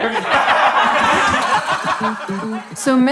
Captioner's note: everyone laughs